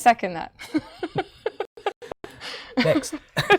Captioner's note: laughing